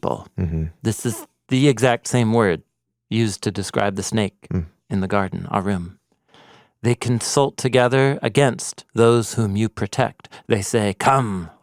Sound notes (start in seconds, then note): 5.3 speaks in Hebrew